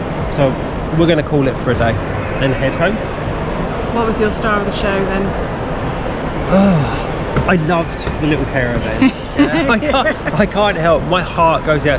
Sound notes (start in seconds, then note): 8.7 laughs